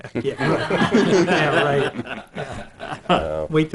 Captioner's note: laughing